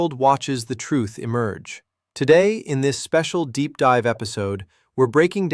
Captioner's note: sarcastic